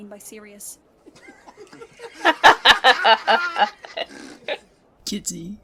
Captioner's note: boys laughing